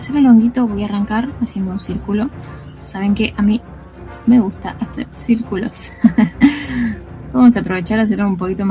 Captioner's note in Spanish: risas